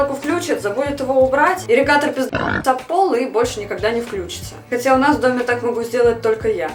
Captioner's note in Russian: хрю